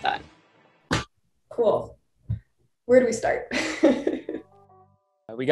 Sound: laughter

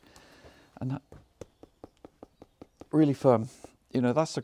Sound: knuckles thunking

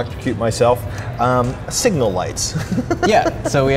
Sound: laughing

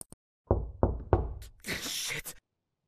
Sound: knocking x3

